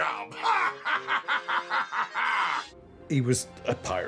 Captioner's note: laughing